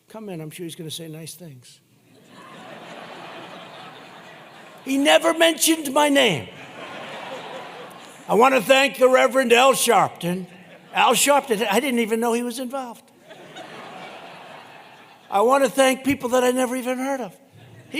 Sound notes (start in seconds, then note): 1.7 laughter; 13.1 laughter